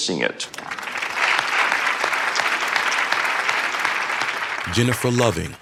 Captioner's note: applause